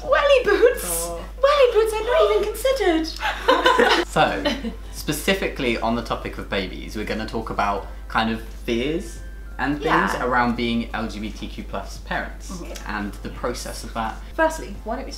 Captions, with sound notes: Welly boots! Welly boots! I'd not even considered. *Laughter* specifically on the topic of babies we're gonna talk about kind of fears and things around being lgbtq+ parents and the process of that firstly why don't we